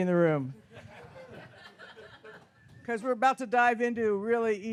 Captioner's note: audience laughs